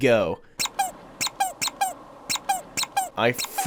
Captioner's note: squeaking